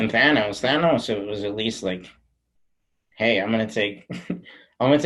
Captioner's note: chuckles